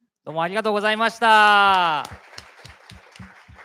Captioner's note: speaking japanese